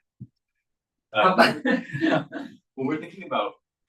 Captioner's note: participants laughing